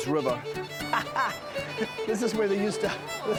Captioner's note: laughing